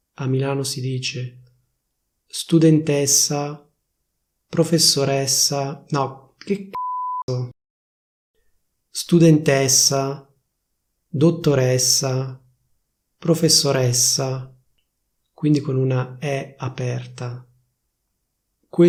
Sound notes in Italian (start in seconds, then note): 6.7 beep